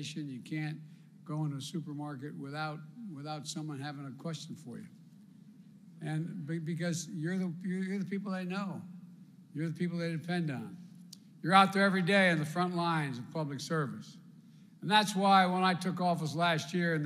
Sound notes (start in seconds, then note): none